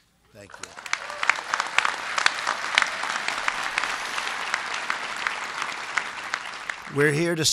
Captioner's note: applause